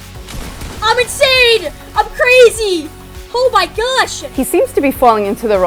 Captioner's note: gunfire